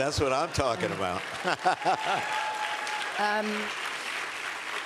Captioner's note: applause